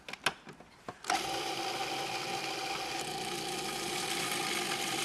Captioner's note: blender whirs